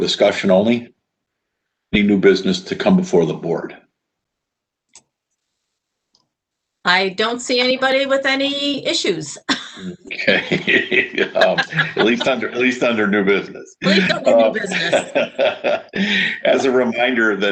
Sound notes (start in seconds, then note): 10.5 laughs; 13.8 laughter